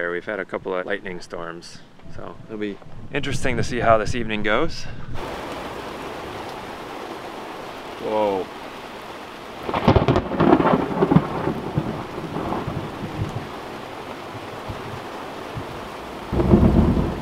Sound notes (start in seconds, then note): 5.7 rain pouring; 9.6 thunder cracking; 14.5 rain pouring